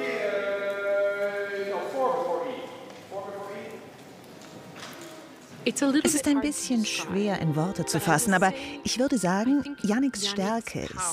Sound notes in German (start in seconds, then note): 0.1 Anweisungen auf Englisch; 5.6 englisch